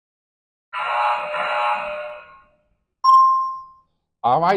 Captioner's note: error sound effect